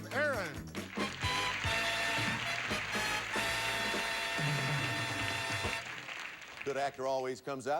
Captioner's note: audience applauding